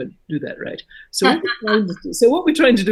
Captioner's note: laughing